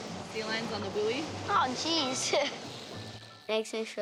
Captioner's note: chuckles